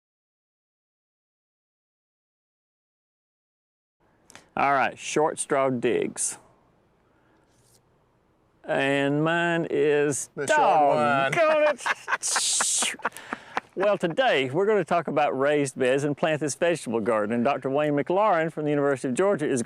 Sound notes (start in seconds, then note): 12.5 laughing